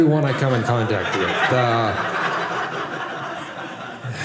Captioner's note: audience laughing